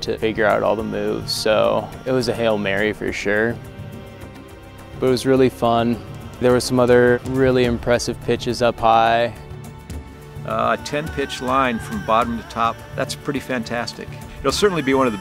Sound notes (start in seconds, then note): 12.8 quavering voice